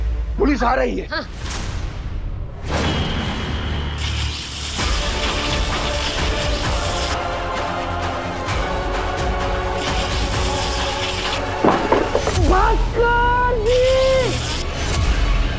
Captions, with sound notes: The police are coming. [dramatic music playing] [impact grunts] Bhaskar!